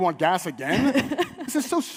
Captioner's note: and audience laughs